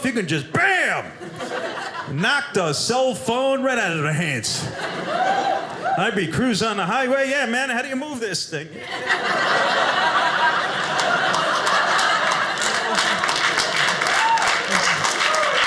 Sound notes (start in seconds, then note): 8.7 audience laughing